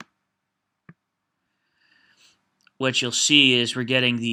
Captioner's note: mouse clicks